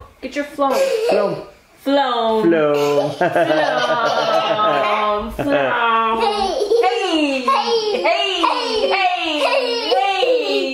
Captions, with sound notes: - Get your floam. - Floam! (laughs) (everyone laughing)